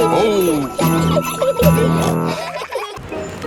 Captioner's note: children giggling; peppa snorts